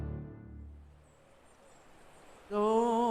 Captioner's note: birds chirping